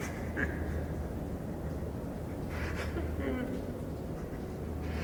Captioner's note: creature sobbing